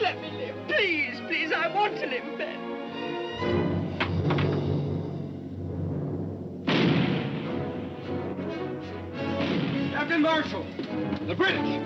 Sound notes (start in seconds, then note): 3.4 tense music; 6.6 cannon firing; 6.9 adventurous music